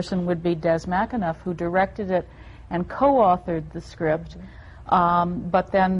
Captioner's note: none